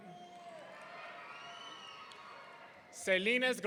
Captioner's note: audience cheering